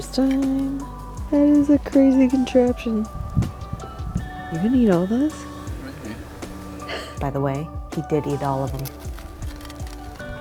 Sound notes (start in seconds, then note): 7.1 laughs